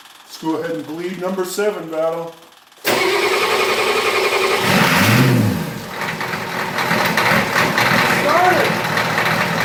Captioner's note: engine cranks & starts; engine idling